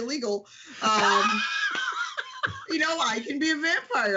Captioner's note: laughs